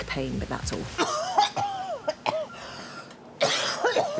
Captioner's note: coughs violently